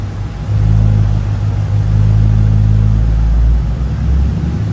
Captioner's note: car engine revving